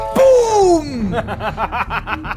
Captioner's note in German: Lachen